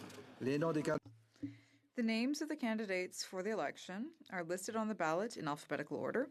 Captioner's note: speaking french